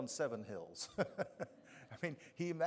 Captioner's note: chuckling